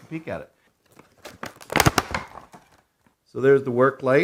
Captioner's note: plastic cracking